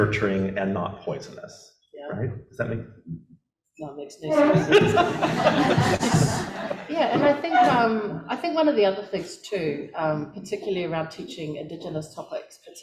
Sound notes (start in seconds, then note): 4.3 audience laughter